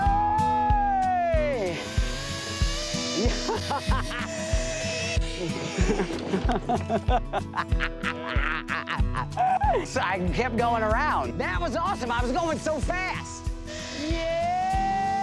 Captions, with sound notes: >> SEE YA, WHOA, HEY! (LINE BUZZING) (LAUGHING) >> SO I KEPT GOING AROUND. THAT WAS AWESOME, I WAS GOING SO FAST! YEAH!